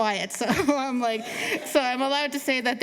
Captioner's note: laughter